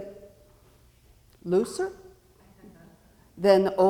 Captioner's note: audience chuckling